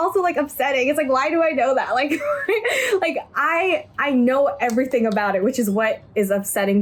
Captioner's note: laughs